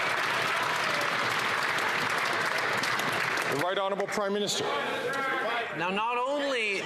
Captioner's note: some Applause